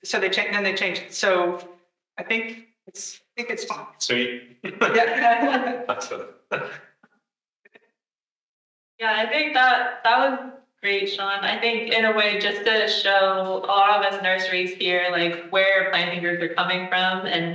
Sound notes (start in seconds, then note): 4.6 attendees laughing; 5.8 audio cutting out